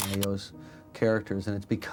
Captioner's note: camera clicks